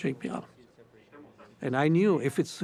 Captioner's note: murmurs